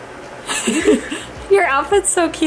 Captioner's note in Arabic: يضحك كلاهما